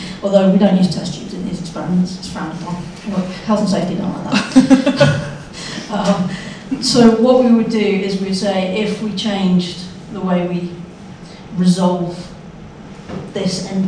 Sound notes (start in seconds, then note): 4.3 chuckles; 4.5 audience member laughs